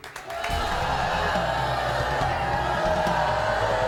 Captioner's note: crowd booing